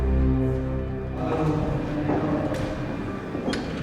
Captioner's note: speaking in Burmese